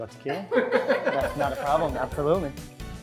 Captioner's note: laughter